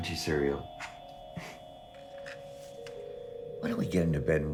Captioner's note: giggling